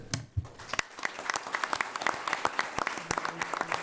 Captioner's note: applause